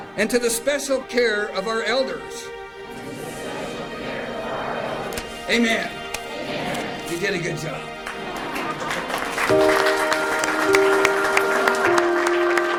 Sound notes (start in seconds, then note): 9.0 crowd applauds; 9.9 peaceful music